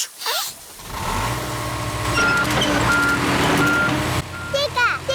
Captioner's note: sniffs; engine roars